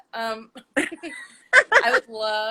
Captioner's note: both laugh